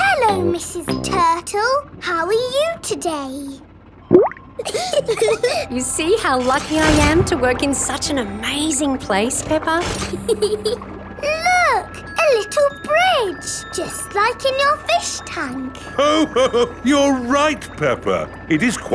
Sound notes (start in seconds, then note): 0.0 bubbling; 4.0 bubbles; 4.6 laughing; 9.8 peppa giggles; 15.9 laughs